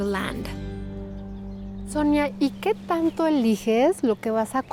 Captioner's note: Pati speaking Spanish